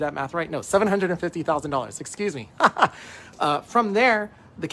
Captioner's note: laughs